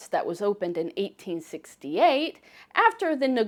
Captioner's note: none